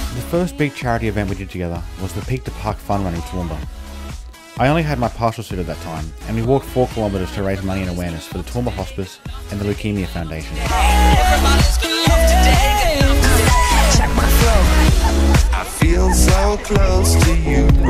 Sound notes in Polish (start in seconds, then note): 12.6 woof